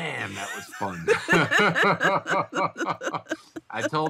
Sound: both laughing

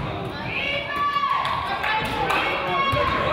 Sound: claps

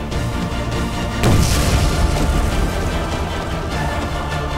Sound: explosion sound effect playing

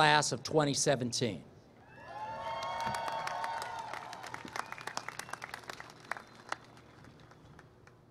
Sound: applause

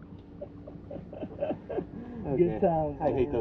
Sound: laughing

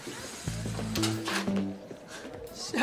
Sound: Caitlin huffs; whimsical music

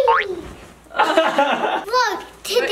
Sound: laughs

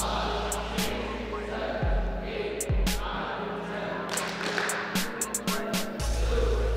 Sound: claps

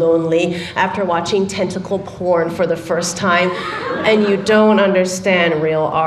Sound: laughter

